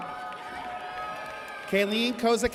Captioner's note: audience cheers